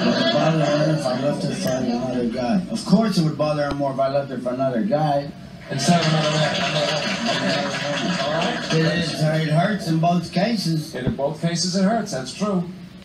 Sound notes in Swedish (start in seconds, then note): 5.7 Publiken applåderar